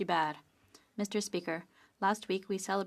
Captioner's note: speaking French